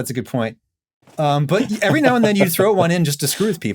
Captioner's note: laughs